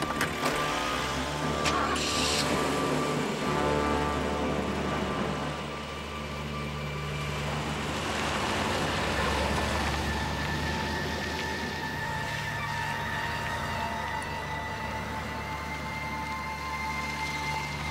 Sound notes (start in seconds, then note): 0.0 trunk opens; 1.9 car engine revving; 1.9 parrot squawks